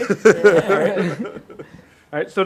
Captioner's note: laughs